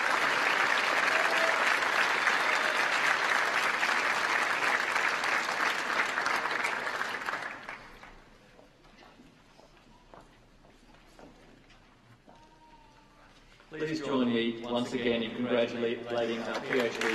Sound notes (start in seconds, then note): 2.1 applause